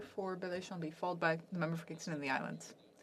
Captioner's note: speaking French